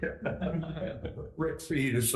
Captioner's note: laughing